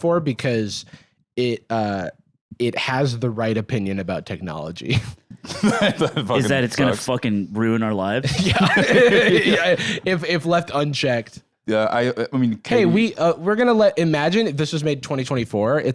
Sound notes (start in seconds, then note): 8.3 laughing